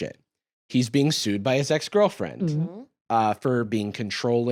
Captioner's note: gulps